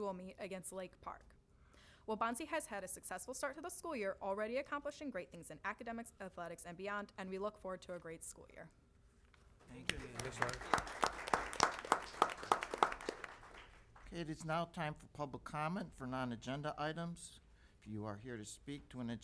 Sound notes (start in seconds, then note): 9.6 applause